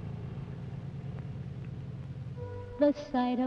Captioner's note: engine purrs